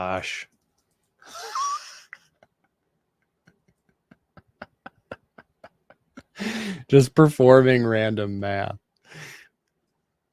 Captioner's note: laughs